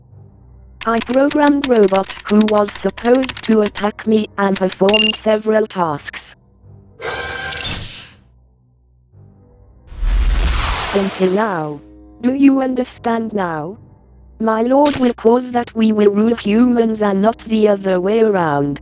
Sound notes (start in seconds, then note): 7.0 machine activating